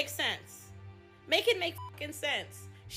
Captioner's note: beep